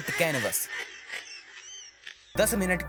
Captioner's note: hysterical laughter